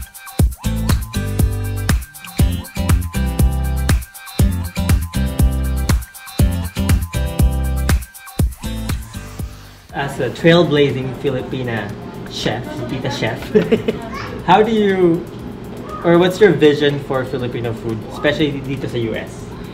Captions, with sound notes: As a trailblazing Filipna Chef, "Tita Chef" *laughs* What's your vision for Filipino Food? Especially, here in the U.S.?